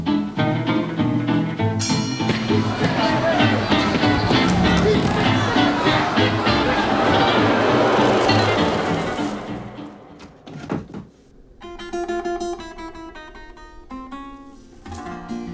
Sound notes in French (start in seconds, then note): 1.8 ding!; 2.2 cris de la foule